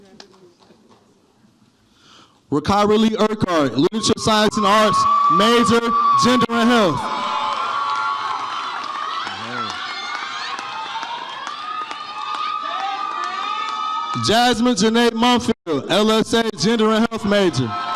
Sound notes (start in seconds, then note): 2.6 distorted audio; 7.5 audience cheers